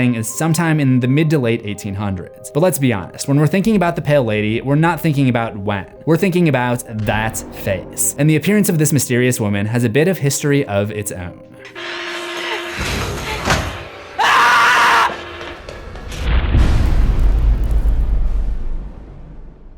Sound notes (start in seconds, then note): 14.1 screams; 16.6 impact